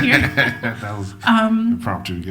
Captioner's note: laughs